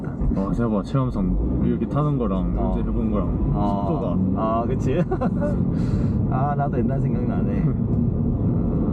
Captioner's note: haha